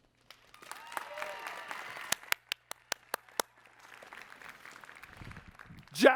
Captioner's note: applause